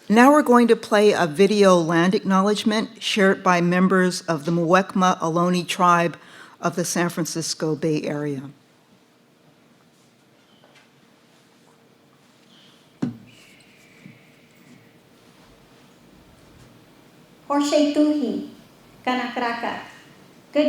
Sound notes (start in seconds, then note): 13.2 birds chirping; 17.5 speaking foreign language